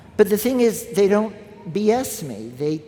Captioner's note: none